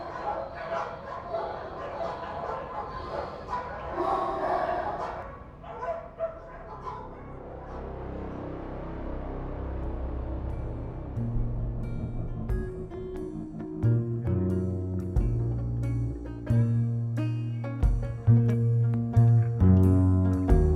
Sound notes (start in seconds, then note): 3.9 dogs barking continues; 7.2 somber music; 17.1 somber music continues